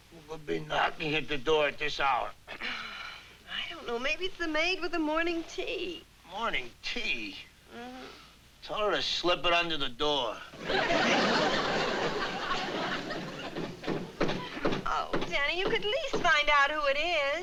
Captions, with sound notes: Who could be knocking at the door at this hour. I don't know. Maybe it's the maid with the morning tea. Morning tea. Tell her to slip it under the door. [KNOCKING ON DOOR] Oh, Danny you could at least find out who it is.